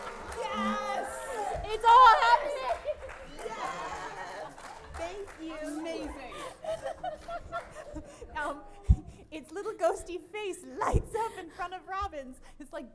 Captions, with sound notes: - Yes. (audience applauds) - It's all happening. Thank you. - Amazing. - It's little ghosty face lights up in front of Robin's.